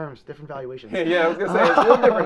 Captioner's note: both laughing